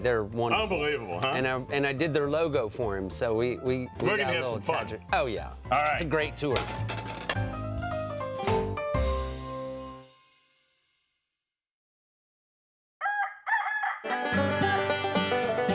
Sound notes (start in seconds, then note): 13.0 rooster crows; 14.0 banjo plays